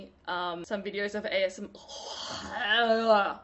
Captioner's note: fake gagging